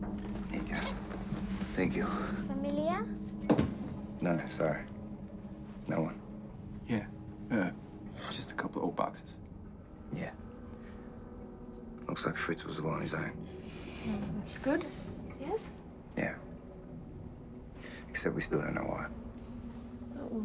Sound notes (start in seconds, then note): 2.8 Mya speaking in foreign language